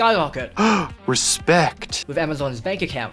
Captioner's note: gasp